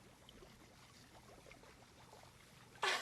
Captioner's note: laughs